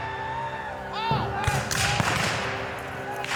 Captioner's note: guns fire